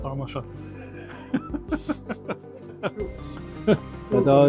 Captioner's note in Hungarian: nevetés